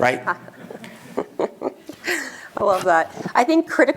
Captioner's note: laughs